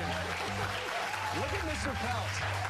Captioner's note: cheers and applause